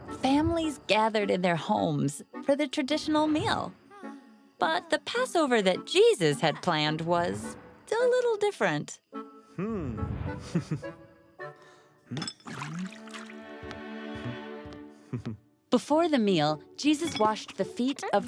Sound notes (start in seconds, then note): 10.4 chuckles; 12.2 water sounds